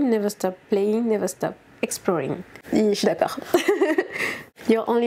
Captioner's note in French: rires